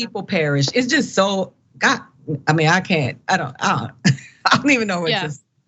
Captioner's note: laugh